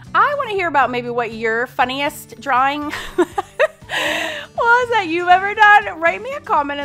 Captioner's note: laughs